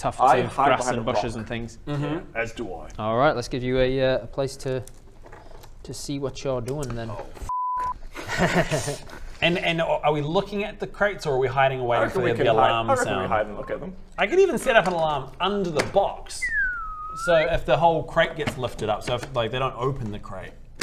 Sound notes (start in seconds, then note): 8.1 ominous laugh